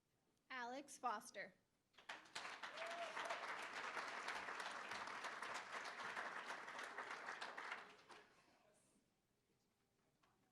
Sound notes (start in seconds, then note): 1.9 applause